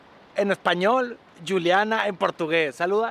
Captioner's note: english accent